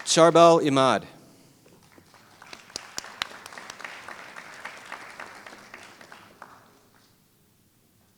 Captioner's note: applause